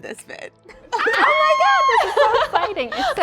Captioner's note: ladies laughing, yelling